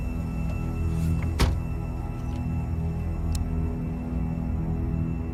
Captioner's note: door clicking